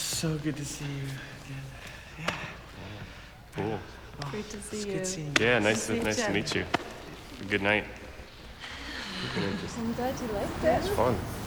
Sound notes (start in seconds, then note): 8.7 chuckles